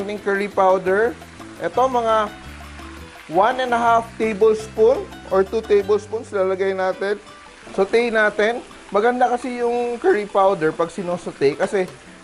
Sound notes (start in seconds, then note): 0.0 sizzle